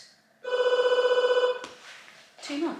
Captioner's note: loud ringing